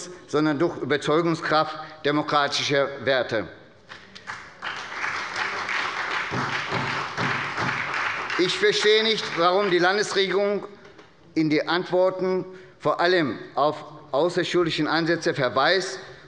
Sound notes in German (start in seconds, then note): 3.9 Beifall bei der SPD